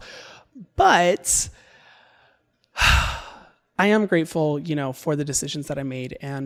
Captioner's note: exhales deeply